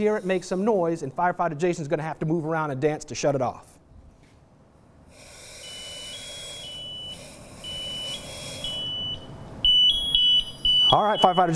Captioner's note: chirping that gets louder